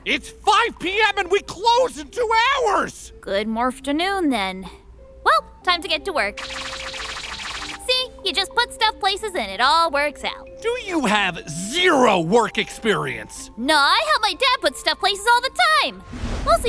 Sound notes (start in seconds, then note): 6.4 swooshing